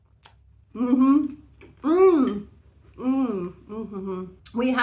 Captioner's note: very happy mouth noises